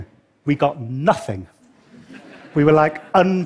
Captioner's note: laughter